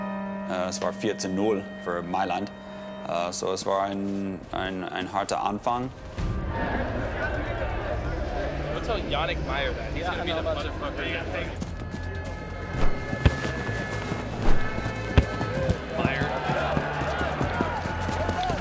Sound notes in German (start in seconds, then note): 6.6 Stimmengewirr; 11.5 Ferne Stadionhupen